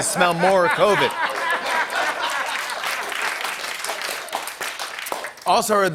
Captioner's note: laughter, applause